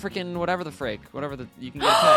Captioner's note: gasp